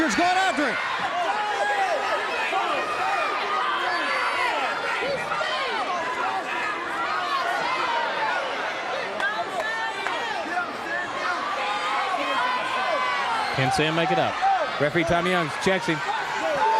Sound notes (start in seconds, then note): 0.2 crowd cheering; 1.3 crowd chatter; 3.7 crowd chatter